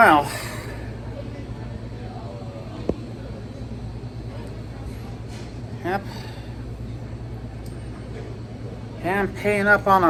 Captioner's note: Students chattering at Purdue Fort Wayne's Kettler Hall